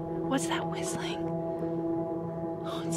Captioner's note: whispering